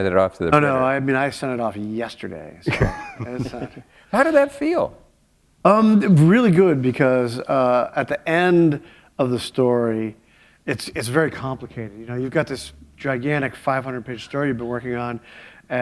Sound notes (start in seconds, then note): 4.4 chuckle